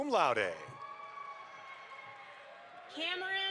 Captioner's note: audience applauds